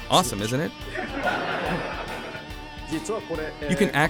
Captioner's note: laughter